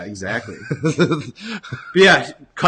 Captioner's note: laughter